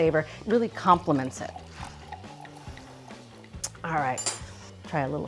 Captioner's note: wine trickling